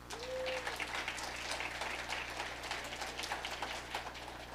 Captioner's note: audience applauding